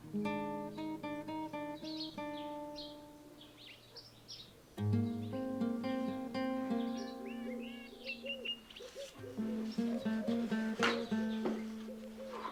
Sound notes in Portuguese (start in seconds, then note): 7.7 Chilreio de pássaros